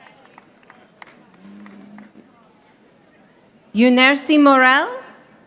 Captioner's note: audience applauding